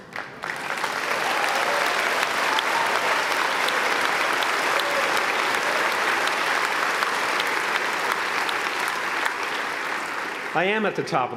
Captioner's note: applause